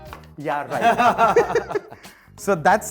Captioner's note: laughing